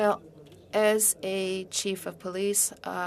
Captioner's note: speaking in French